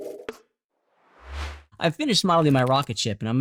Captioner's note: bright whoosh